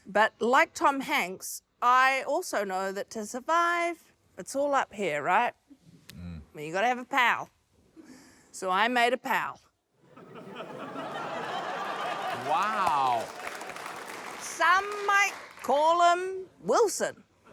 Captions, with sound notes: But like Tom Hanks, I also know that to survive, it's all up here, right. I mean, you've gotta have a pal, so I made a pal. (LAUGHTER) - Wow. - Some might call him 'Wilson'.